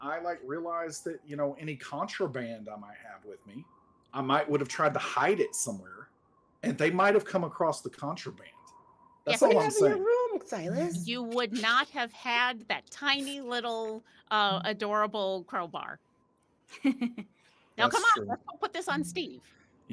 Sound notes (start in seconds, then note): 17.8 giggling